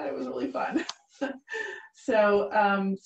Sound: giggling

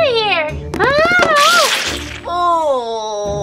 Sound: cake splatters; groaning

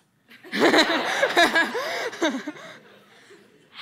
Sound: laughter

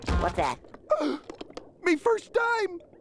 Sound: gasping

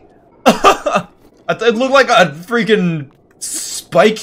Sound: laugh

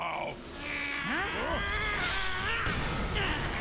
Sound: mantid groaning

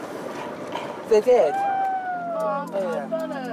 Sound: whispers

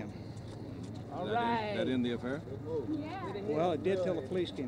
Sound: voices in crowd

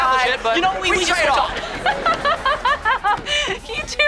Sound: laughing

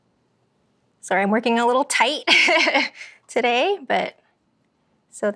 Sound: laugh

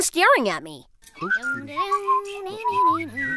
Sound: humming/whistling

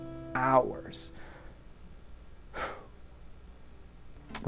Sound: sighs

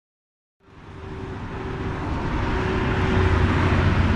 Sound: truck engine accelerating

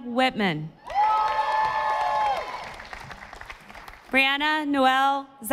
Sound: audience applauding

